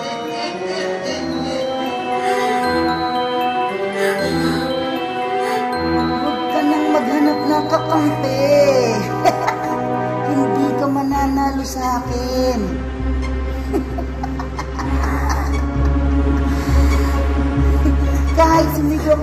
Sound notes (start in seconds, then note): 0.2 chuckles; 3.9 Michael gasping; 9.0 laughs; 13.5 chuckles